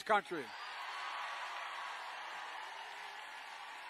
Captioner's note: crowd cheering